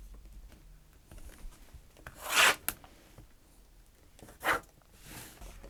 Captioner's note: pencil scratches